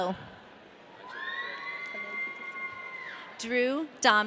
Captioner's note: audience cheering